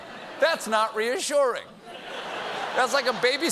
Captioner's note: laughter